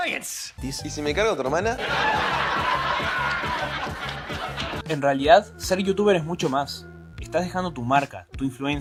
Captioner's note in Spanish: Risas enlatadas